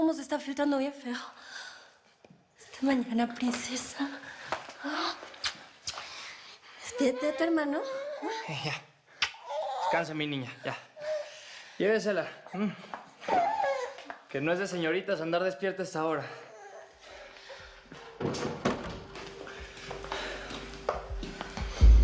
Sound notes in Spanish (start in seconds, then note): 9.4 Balbuceo de la bebé; 18.2 Ruido al cerrar